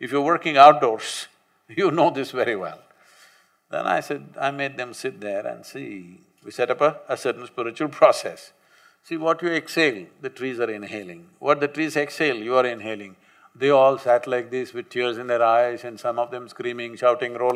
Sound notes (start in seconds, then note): none